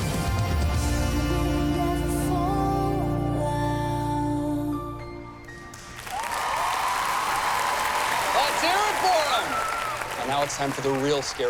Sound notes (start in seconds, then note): 6.0 cheering